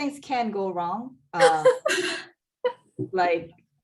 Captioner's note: laughing